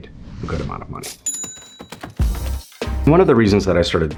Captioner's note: cash register dings